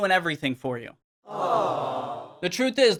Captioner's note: crowd cooing